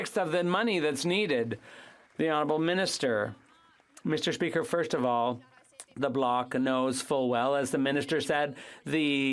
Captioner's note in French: applaudissements